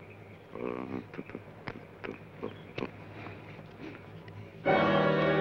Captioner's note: Joshua hums melodically